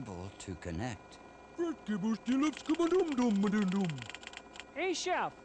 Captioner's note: VERY persistent Swedish Chef sounds